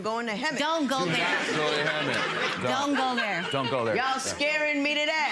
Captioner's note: audience laughs